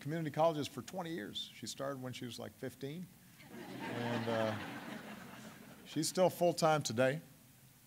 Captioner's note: laughter